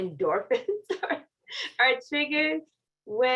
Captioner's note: laughter